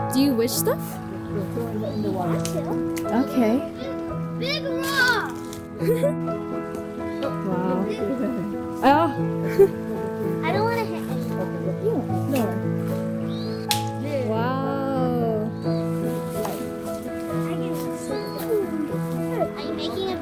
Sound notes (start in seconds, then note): 5.7 laughing; 17.0 rock hits